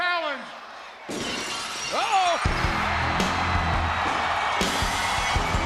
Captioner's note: glass shattering